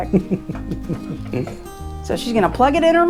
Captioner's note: Cowboy Jack laughs